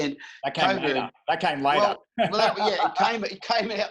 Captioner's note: laughing